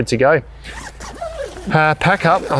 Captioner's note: zipper zipping